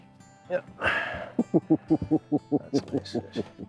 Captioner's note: laughing